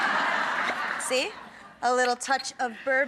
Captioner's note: laughter